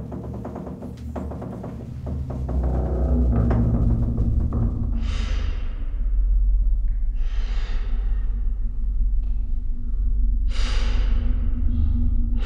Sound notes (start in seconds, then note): 7.7 heavy breathing